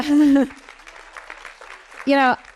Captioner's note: audience applauding